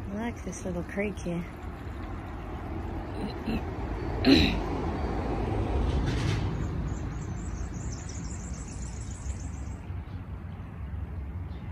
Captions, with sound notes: I like this little creek here. [there are traffic noises, as well a high-pitched bird call]